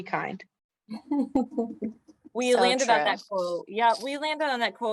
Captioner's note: laughter